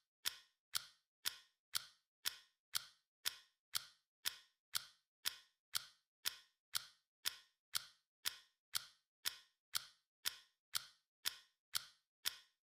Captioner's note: clock ticking